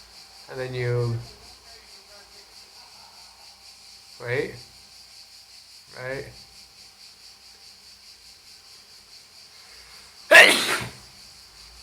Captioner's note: sneeze